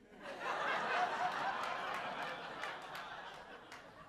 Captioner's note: audience laughing